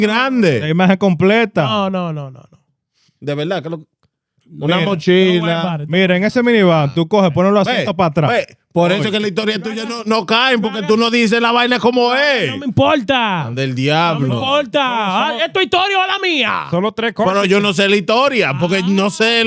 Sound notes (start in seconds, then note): 3.9 speaking In Foreign Language